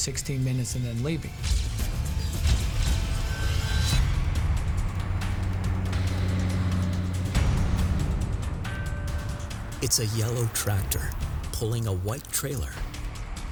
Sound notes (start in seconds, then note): 4.0 truck engine humming; 5.4 tense music